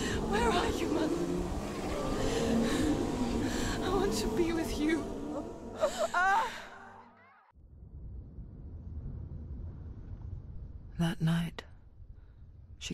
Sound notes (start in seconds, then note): 5.8 gasp, scream